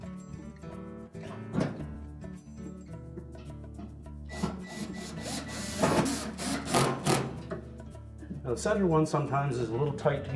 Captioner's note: electric screwdriver